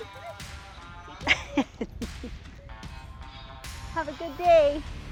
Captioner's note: laughs